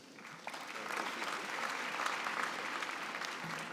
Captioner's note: applause